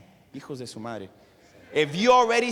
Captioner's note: speaking spanish